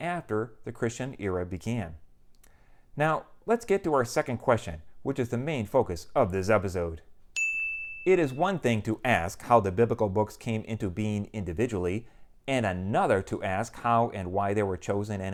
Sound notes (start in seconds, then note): 7.3 chime